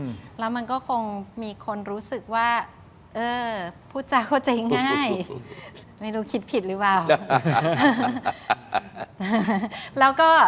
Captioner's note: laughs